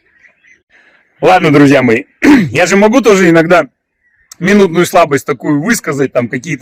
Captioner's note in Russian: откашливается